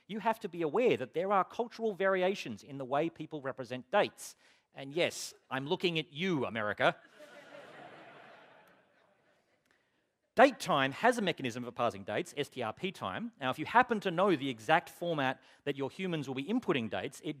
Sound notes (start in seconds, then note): 7.0 laughter